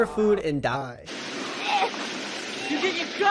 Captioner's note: rain splattering; woman choking